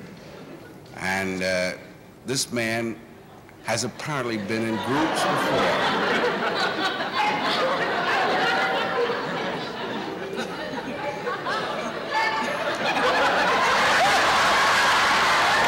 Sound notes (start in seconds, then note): 6.8 laughs